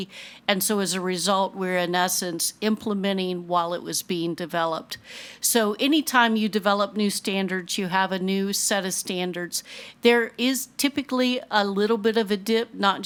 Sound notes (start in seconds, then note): none